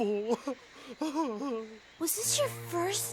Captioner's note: Dreamer sobs for probably the fourth time